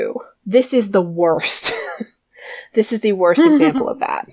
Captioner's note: laughs